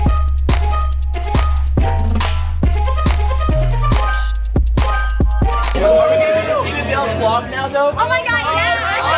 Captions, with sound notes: (all yelling) - Oh my god, yeah.